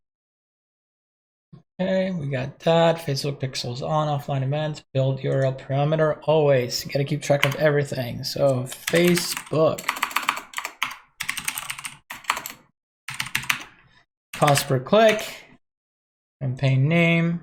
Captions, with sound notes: Hey, we got that facebook pixel is on, offline. Events, build your url parameter always, you gotta to keep track of everything. So Facebook (typing keyboard) cost per click, campaign name,